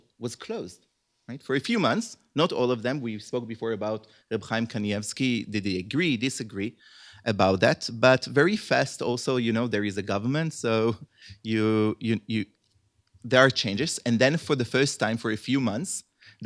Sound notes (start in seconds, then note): 4.8 hebrew